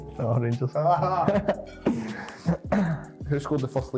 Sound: both laugh

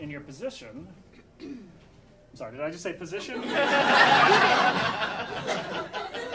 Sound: audience laughing

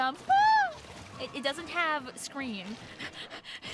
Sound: scream

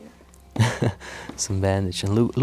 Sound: laughs

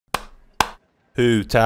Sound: clap clap

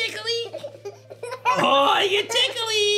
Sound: giggles

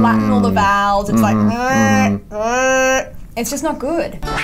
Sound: moans

